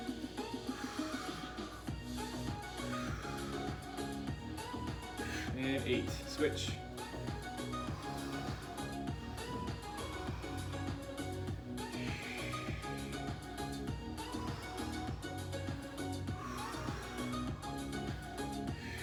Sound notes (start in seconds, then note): 0.0 breaths; 0.0 upbeat music; 0.2 breaths; 0.3 upbeat music; 7.2 upbeat music; 9.1 breaths; 9.1 upbeat music; 14.0 breaths; 14.0 upbeat music; 18.7 breaths; 18.7 upbeat music